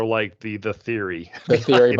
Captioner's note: chuckling